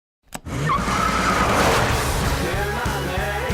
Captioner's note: tires squealing